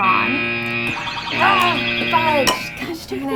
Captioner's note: groans